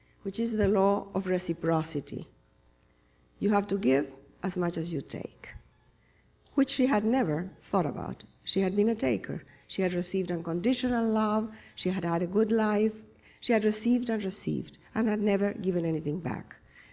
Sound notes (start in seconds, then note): none